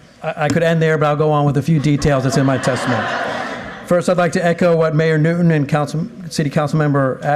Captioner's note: applause